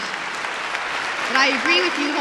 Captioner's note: applause